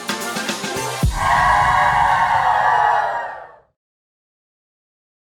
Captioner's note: group cheering